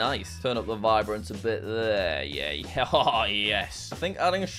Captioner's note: chuckles